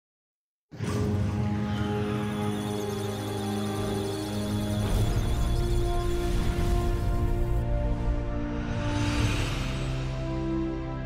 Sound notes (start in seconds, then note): 1.8 electronic sounds of data; 1.8 musical tones